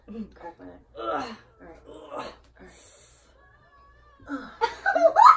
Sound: grunts in fake exertion; laughing

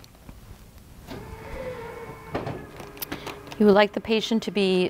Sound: machine whirring

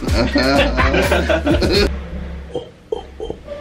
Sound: fake laughter

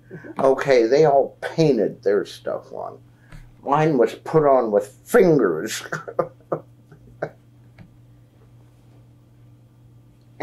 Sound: laughs

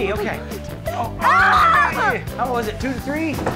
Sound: cheering

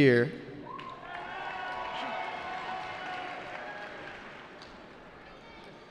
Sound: cheering

